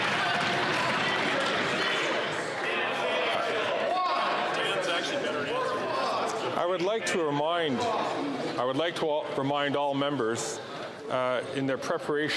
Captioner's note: applause